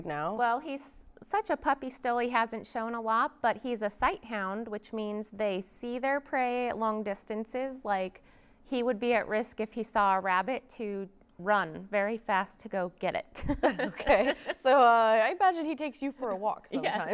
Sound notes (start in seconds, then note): 13.6 laughs